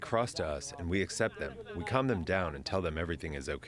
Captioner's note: arabic